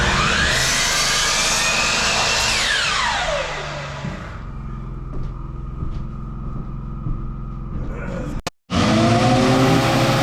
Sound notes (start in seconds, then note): 3.5 screeching; 8.7 engine revving